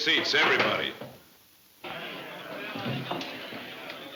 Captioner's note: crowd chattering